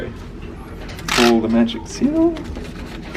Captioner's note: paper tears